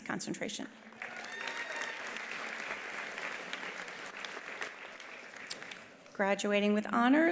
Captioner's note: attendees applauding; attendees cheering